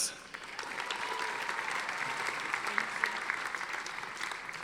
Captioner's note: audience applauding